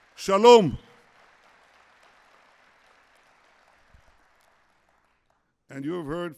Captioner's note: applause